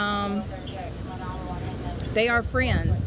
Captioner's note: radio chatter